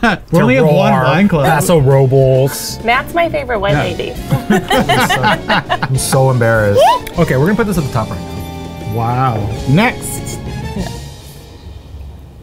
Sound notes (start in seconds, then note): 4.3 laughs